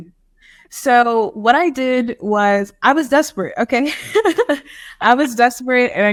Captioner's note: laughs